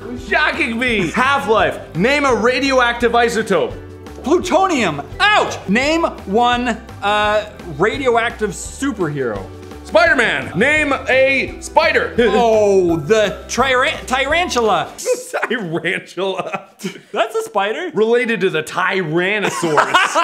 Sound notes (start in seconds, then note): 15.0 laughing